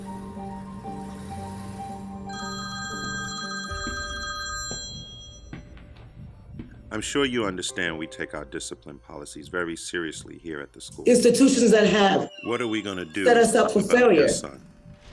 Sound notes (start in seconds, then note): 2.2 phone ringing